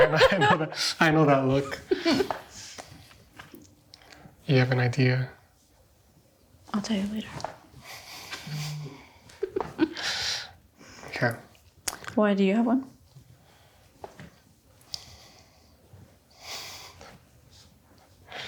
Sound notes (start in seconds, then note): 0.0 laughs; 9.3 laughs